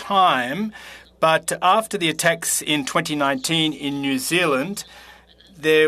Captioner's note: speaking French